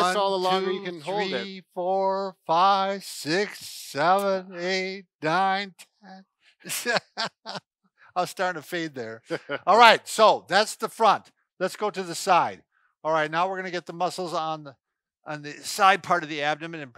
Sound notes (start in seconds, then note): 6.6 man laughing